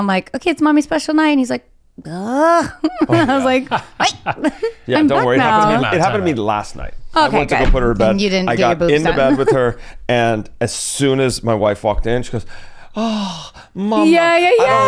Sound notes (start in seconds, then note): 2.3 laughs; 2.6 chuckles; 9.1 laughs